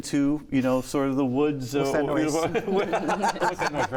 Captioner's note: laughing